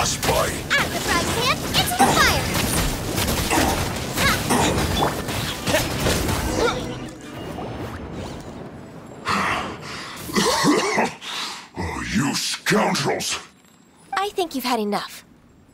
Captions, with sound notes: Fatui Skirmisher *cough*... You... Scoundrels... I think you've had enough.